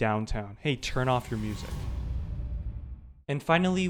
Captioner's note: dramatic thud